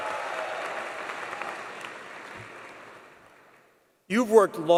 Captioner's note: applause